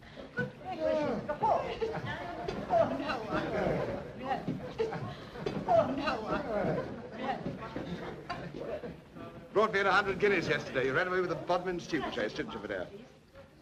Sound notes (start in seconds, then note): 0.0 guests chattering